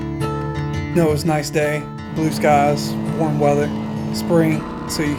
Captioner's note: calm guitar music; voiceover